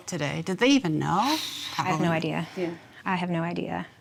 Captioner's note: exhales